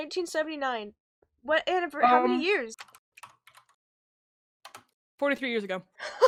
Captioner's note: typing sounds